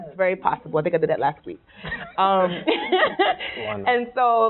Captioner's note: laughing